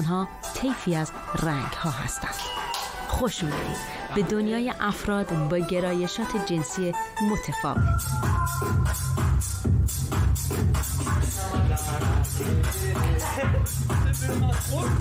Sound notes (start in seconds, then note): 2.8 bell Rings; 8.3 techno Music Playing